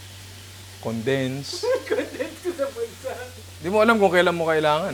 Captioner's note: laughs